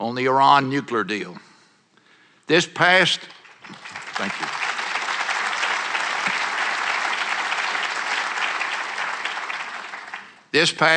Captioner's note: applause